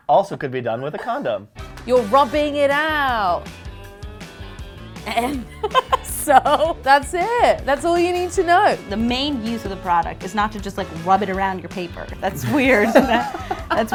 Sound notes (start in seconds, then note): 5.0 laughs; 12.3 laughs